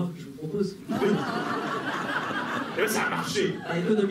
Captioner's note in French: rires